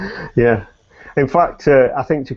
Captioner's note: laughs